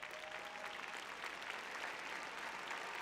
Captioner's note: cheering; applause